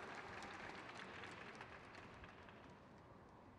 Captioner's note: crowd claps